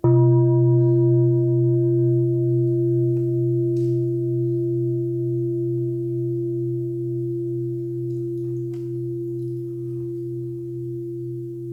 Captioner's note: bell sounds